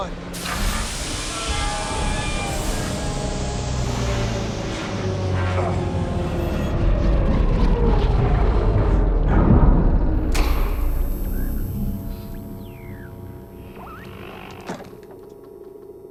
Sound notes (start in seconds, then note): 0.3 engine whirring; 0.3 metal creaking; 10.0 electricity buzzing; 11.0 radio static crackling